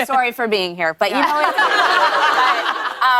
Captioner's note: laughter